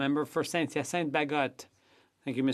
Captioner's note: speaking French